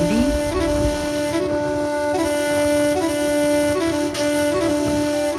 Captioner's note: wind blowing